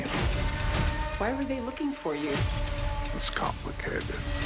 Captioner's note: dramatic sfx